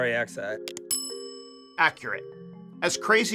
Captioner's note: bell ringing